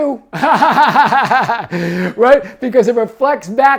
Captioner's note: man laughing